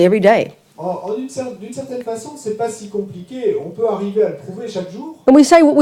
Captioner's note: French